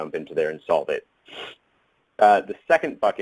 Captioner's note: inhales